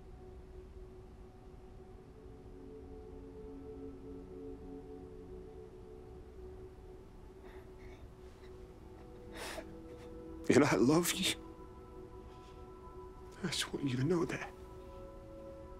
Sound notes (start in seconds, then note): 9.2 sniffles; 10.4 voice breaking